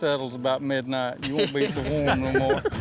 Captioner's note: chuckling